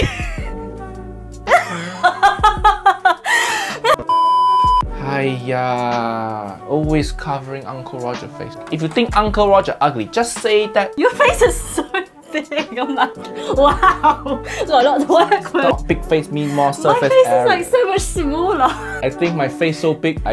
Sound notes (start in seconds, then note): 1.4 laughs; 4.0 color bars beep